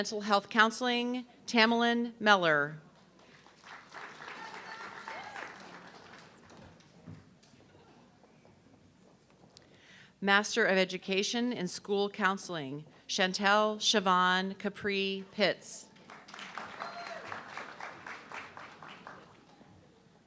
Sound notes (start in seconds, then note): 3.0 audience clapping; 16.0 audience clapping